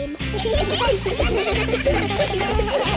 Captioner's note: giggling